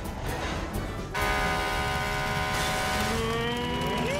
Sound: car honking

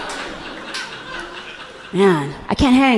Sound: audience laughing gently

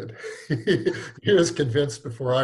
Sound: laughs

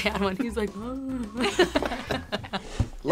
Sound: both laugh

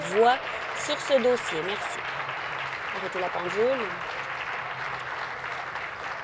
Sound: applause

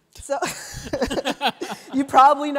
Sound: laughter

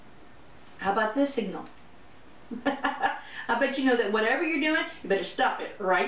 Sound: laughter

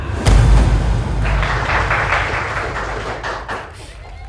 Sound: clapping hands

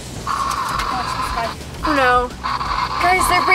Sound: static crackles

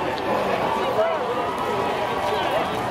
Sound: crowd noises

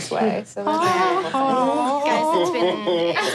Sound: vocalizing sadly

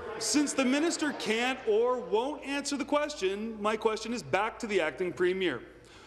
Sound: applause

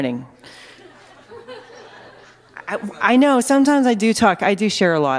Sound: laughter

